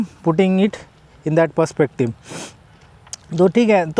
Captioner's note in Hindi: नाक से की जाने वाली आवाज़